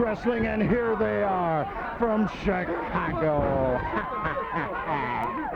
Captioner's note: laughs